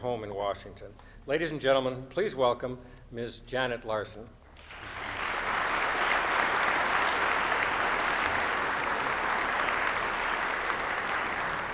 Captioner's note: applause